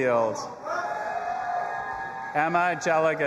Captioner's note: audience applauding and cheering